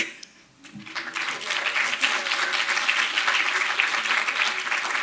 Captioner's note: audience applauds